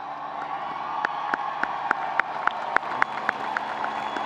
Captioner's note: audience applauding